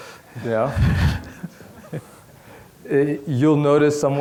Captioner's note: laughing